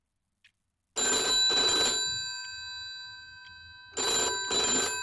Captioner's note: phone ringing